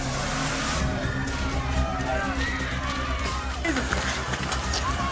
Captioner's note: people shouting